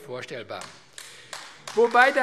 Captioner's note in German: Beifall AfD